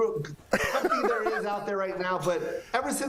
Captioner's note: laughter